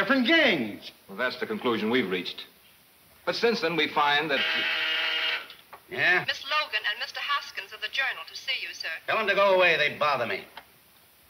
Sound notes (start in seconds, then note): 4.2 intercom buzzing; 6.1 woman On Intercom